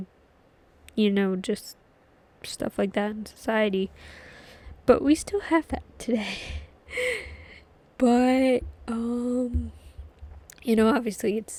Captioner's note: laughs